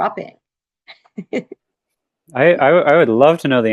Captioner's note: laughs